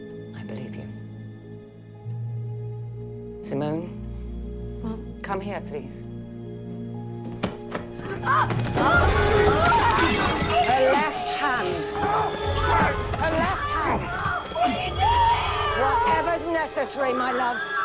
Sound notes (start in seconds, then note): 8.1 yelling; 8.6 vase shatters